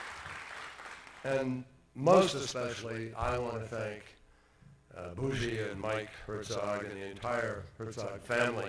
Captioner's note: applause